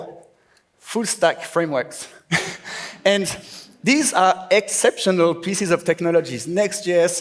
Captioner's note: laughs